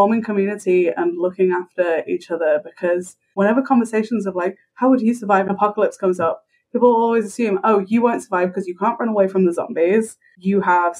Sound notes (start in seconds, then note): none